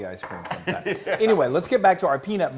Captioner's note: laugh